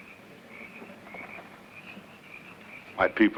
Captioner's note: footsteps shuffling